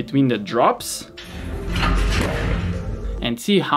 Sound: machine clunking

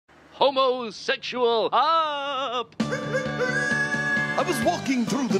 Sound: wolf howling

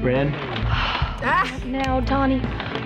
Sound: sighs; claps

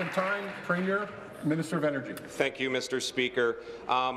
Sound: applause

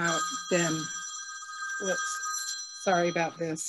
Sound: phone ringing

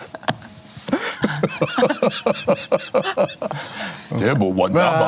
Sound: laughter

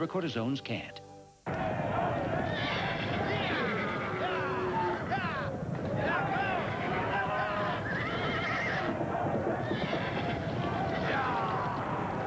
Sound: sounds of a cattle drive - cowboys, cattle mooing, horses whinnying, etc

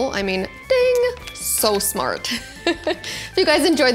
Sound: laughs

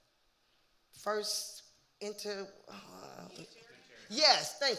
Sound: groaning

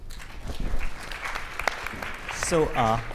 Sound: audience applauds

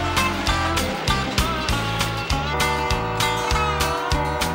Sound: whistle blowing

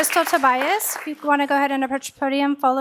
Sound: applause

